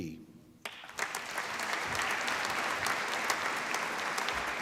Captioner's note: applause